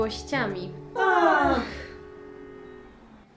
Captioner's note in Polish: wzdychają